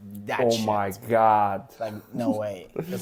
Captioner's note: laughs